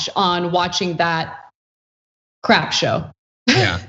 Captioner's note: laugh